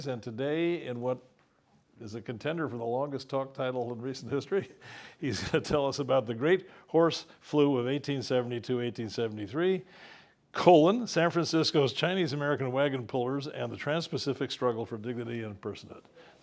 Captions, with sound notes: And today, in what is a contender for the longest talk title in recent history, [LAUGH] he's gonna tell us about The Great Horse Flu of 1872-1873; San Francisco's Chinese American Wagon-Pullers; and the Trans-Pacific Struggle for Dignity and Personhood.